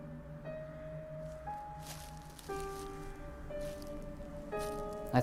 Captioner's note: leaves rustling